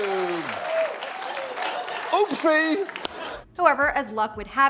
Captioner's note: audience clapping